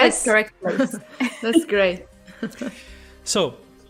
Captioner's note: laughs